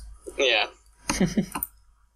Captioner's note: chuckles